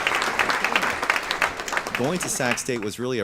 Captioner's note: clapping